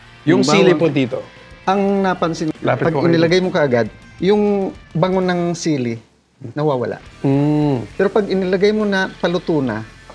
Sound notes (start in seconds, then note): none